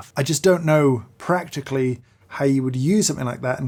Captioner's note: none